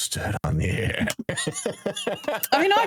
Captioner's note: laughing